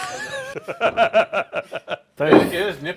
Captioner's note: both laughing